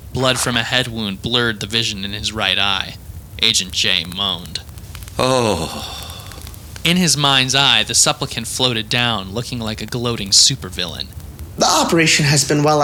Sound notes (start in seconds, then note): 5.2 Agent J moans